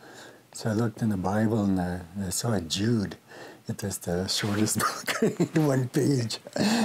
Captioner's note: laughs